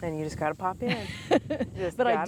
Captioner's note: laughing loudly